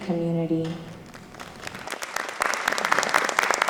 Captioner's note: applause